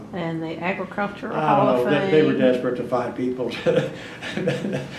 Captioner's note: laughs